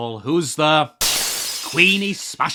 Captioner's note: smash